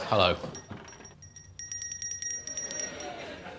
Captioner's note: rings bell